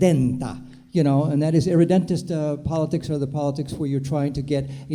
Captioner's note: foreign language